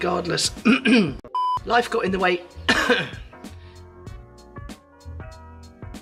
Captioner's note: clears throat; beep; coughs; funky music